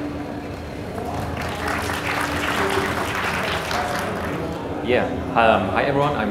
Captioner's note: audience applauds